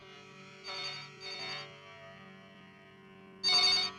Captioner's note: phone rings